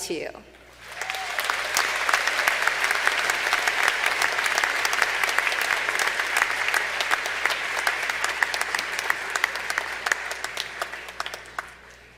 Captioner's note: applause